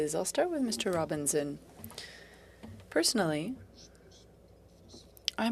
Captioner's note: speaking French